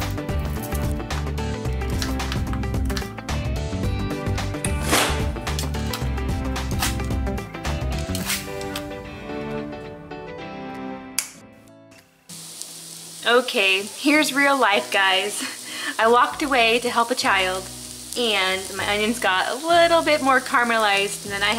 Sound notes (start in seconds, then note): 11.2 snapping